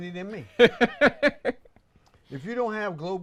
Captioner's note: laughs